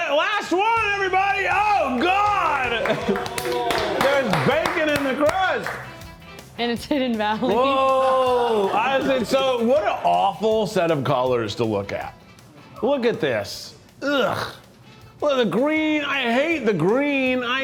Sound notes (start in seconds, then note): 2.8 crew applauds